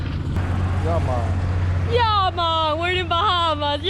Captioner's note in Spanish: acento de Bahamas